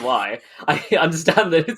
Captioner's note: laughs